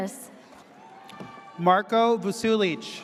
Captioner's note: audience cheers